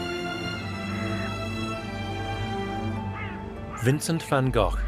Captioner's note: crow caws